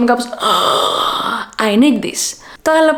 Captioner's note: ughhhh